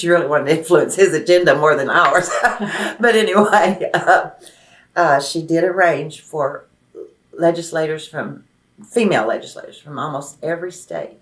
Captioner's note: laughs